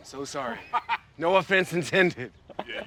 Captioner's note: laughs